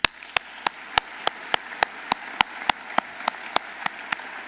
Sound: audience applauding

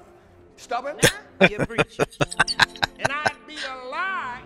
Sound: laughing

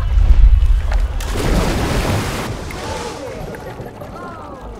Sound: banging; splashing

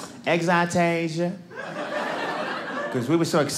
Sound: audience laughing

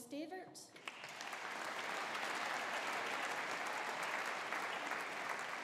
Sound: audience applauding

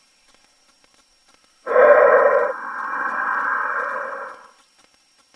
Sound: weird breathing sound

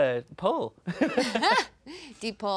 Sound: laughing

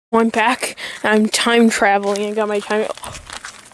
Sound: light Gasp

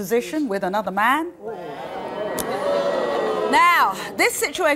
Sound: audience jeering

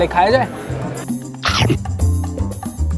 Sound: Crunch

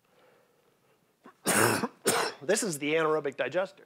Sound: coughing

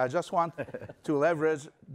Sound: laughter

